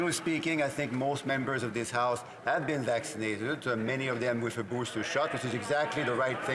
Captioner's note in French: voix de l'interprète